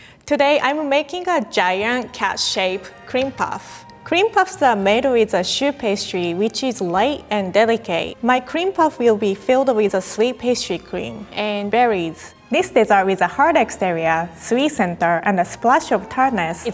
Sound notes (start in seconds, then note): none